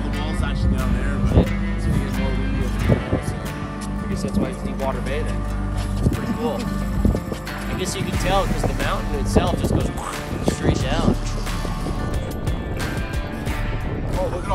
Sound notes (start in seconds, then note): 10.5 swoosh; 11.7 relaxed guitar music